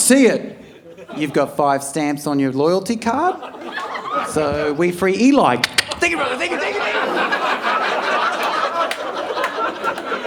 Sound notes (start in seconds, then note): 5.6 imitating lock opening; 7.6 audience laughing